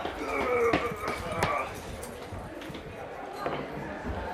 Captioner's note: man grunts; people chattering